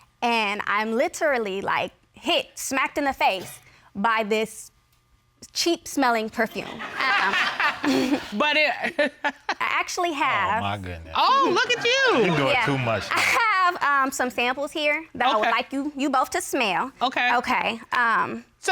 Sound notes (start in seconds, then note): 6.6 all laugh; 6.7 laughs